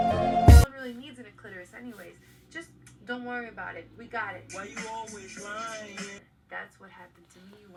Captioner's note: audio heard from laptop